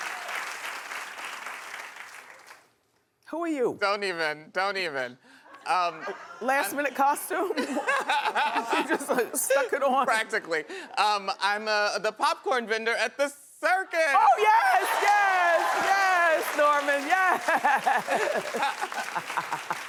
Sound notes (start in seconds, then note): 7.4 laughing; 14.7 clapping; 17.4 laughing